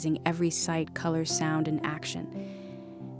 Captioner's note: none